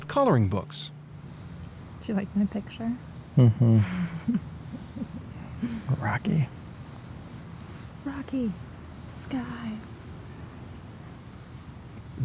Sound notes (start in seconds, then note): 3.2 laugh